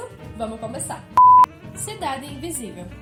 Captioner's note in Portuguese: bip